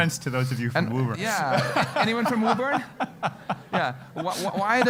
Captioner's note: laugh